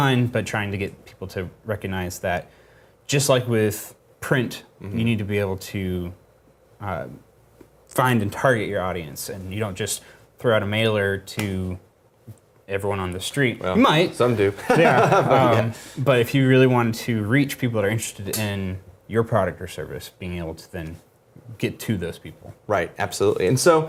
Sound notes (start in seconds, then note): 14.5 laugh